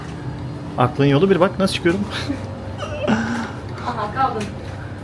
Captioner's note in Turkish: kahkaha